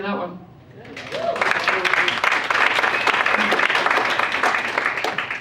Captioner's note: audience applauds